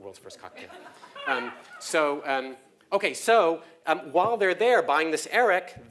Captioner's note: laugh